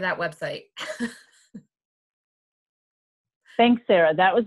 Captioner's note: laughs